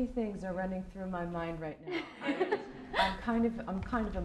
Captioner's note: laughter